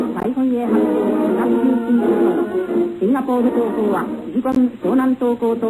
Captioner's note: speaking foreign language